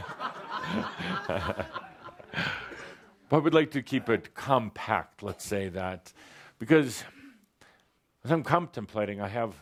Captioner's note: laughter